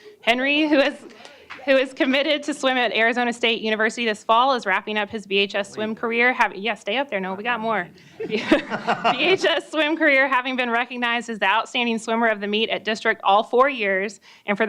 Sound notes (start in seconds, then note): 9.6 chuckling